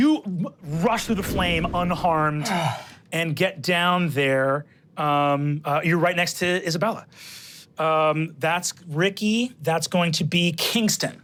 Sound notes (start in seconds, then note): 0.6 whoosh